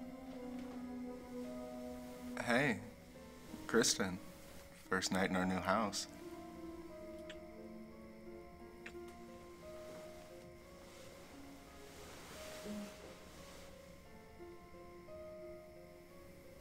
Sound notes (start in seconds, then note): 7.5 kisses smacking; 11.6 soft piano music